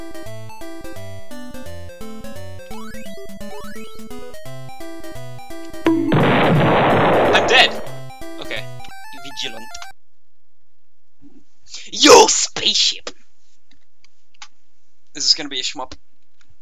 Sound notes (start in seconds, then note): 5.8 bonk; 5.8 boom